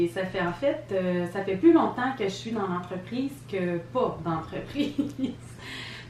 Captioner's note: laugh